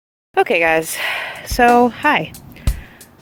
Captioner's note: long breath